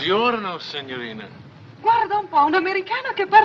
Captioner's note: speaking in italian